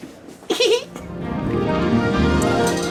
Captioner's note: cute giggles; orchestra music